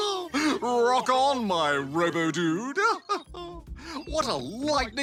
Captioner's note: laughs